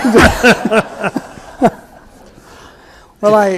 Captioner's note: everyone laughing